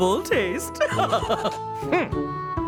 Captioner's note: laughing